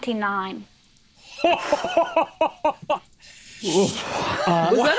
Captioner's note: laughs